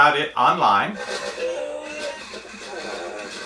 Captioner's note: mechanical whirring